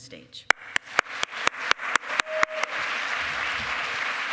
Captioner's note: cheering